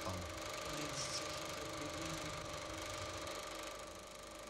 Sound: film reel rolls

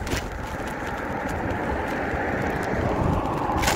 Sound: road noise

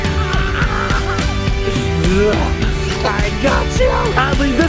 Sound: screaming; laughter

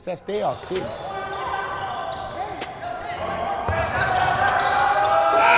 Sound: overlapping chattering; timer buzzes

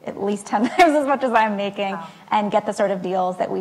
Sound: laughs

